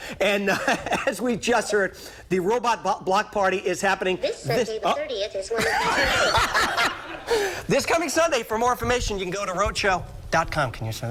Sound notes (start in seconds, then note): 5.5 laughter